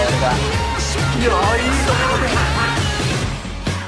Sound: laughs like hyena

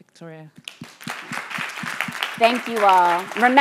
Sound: audience applause

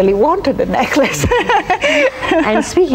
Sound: laughs

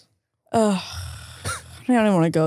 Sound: groaning

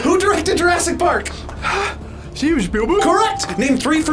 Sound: sighs

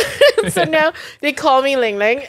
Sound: laughing

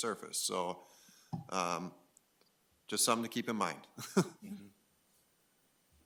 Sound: laughs

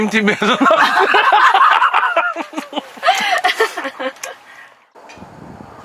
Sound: laughs

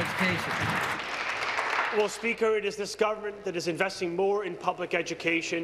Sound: applause

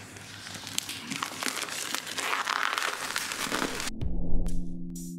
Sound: mmmm plastic ripping; more plastic ripping; relaxing background music

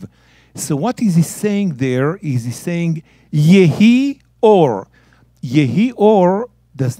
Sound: speaking in Hebrew

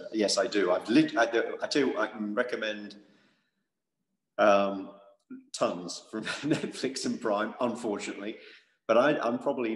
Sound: laugh

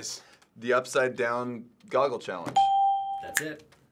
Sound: ding

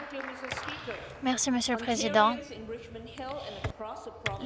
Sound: applause

